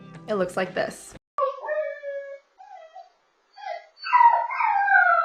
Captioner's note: dog howling